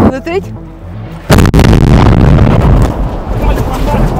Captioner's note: sound of explosion